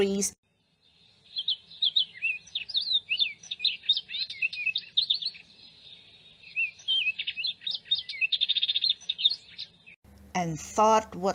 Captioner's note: birds singing